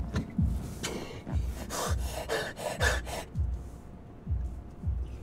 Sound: heavy breathing

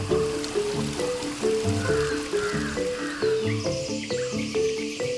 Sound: birds cawing and chirping

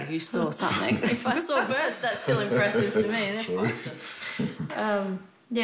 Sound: laughs

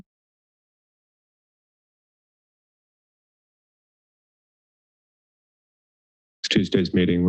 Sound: silence

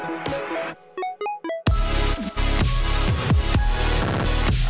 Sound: explosion and dubstep

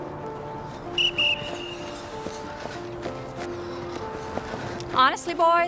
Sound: light music; whistle blares

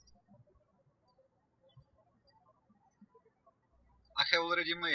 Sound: birds chirping

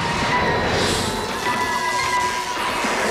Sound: buzzing

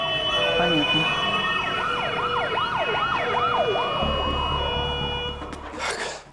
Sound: police sirens

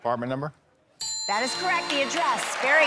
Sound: ding!

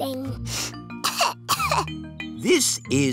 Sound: sniffs and coughs

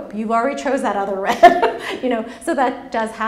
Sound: laughs

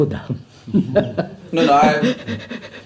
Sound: laughs

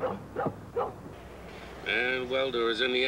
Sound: dog barking

